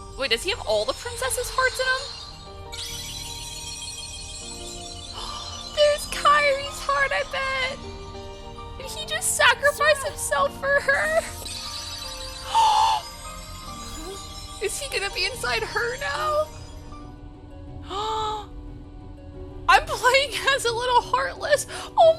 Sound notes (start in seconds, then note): 17.8 gasp